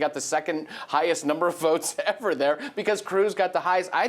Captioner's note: laughs